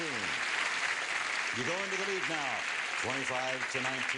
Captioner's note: applause